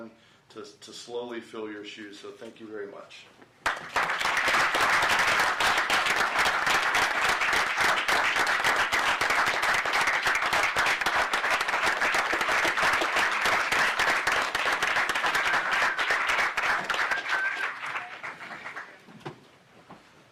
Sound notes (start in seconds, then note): 6.0 applause